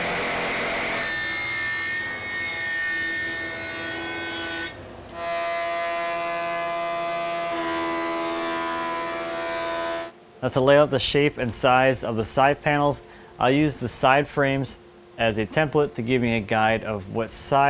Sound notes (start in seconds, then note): 0.0 machine buzzing; 4.9 machine humming